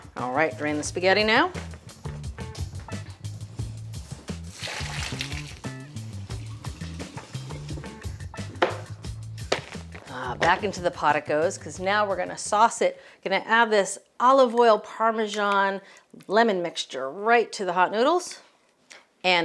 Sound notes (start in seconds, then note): 4.0 upbeat music; 4.6 water burbles; 9.4 pan thumps